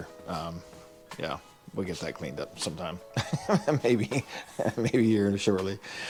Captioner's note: chuckles